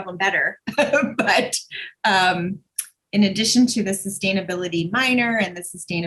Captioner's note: chuckles